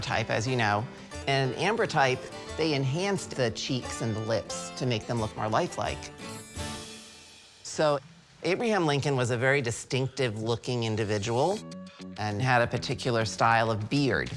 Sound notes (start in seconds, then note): none